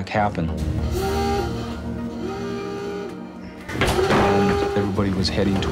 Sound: alarm sounding

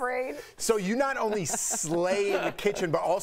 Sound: laughter

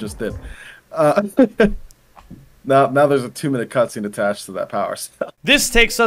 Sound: laughs

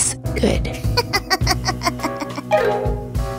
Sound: laughing

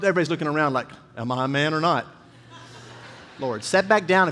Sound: congregation laughing

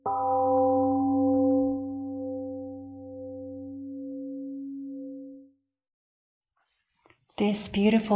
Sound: temple gong rings and fades

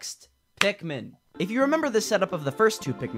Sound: clap

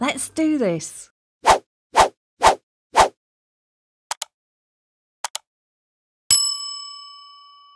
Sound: bell rings loudly

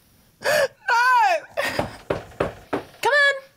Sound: sobs; knock on door

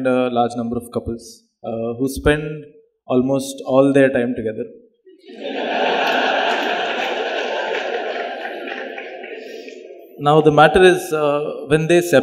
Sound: laughter

